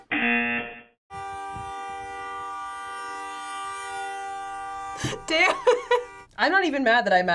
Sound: car horn

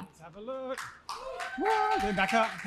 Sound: applause; cheering

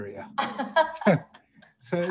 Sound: laughing

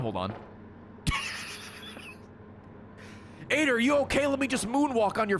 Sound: laughs

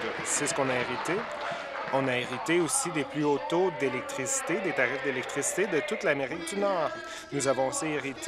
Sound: applause

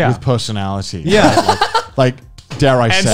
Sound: laughs

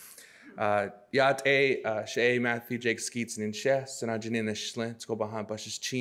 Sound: speaks in foreign language

